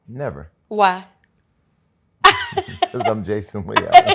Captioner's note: laughs